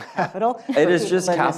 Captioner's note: laughs